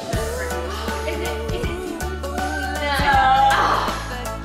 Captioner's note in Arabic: الناس يتحدثون بشكل غير واضح; لهث